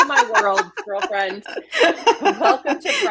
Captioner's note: laughs